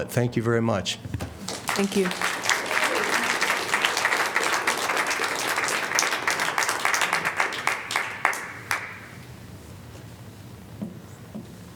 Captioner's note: applause